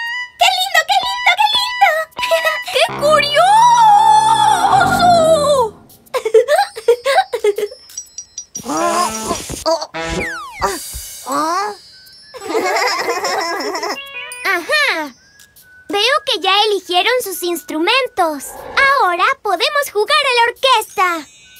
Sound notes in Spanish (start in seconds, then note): 2.7 Sonido de tuba; 6.1 Risas; 12.4 Risas